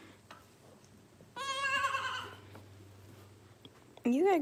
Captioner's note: goat bleats